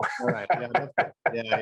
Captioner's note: laughing